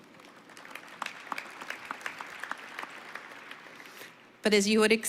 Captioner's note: applause